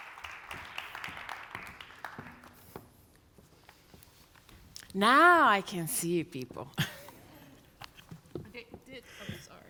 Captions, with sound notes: - Now I can see you people! (chuckles)